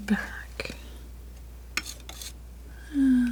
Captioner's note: metal scraping